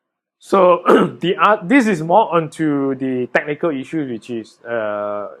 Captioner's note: coughs